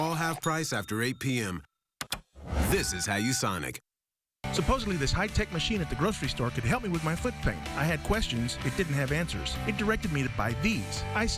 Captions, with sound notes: AFTER 8:00 P.M. -( clicks ) -( beeps )